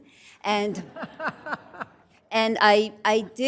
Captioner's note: laughter